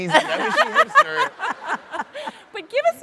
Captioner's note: audience laughs